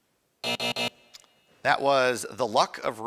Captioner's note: buzzing